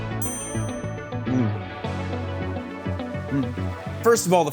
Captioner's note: bell dings